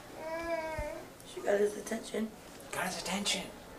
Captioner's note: voiceover